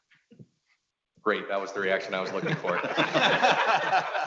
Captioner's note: laughs